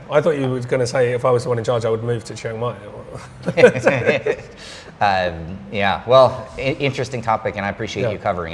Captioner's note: laughing